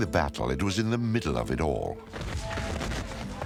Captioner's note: cannons blasting